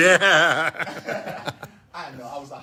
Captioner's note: laugh